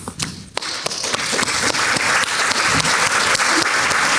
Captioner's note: audience clapping